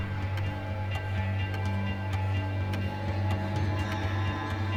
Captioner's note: clock ticking